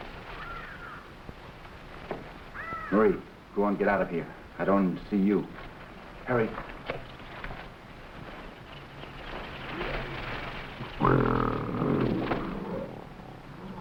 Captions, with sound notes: - Marie, go on, get out of here. I don't want her see you. - Hurry. (plants rustling) (gorilla grunting)